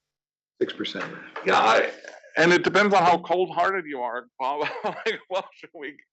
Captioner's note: laugh